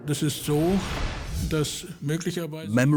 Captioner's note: speaking German